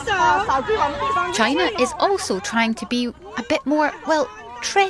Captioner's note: crowd noise